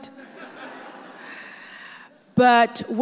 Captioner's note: audience laughs